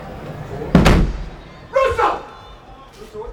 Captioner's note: door bangs